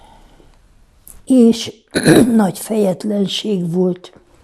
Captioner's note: clears throat